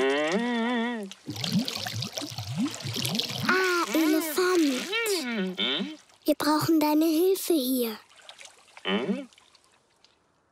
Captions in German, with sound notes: (Plätschern) Ah, Elefant. Hm? Wir brauchen deine Hilfe hier. Hm?